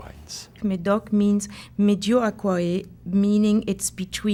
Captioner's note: speaking french